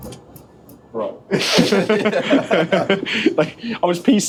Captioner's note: laughter